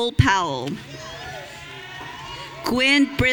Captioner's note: audience cheering